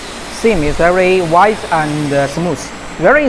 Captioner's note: welding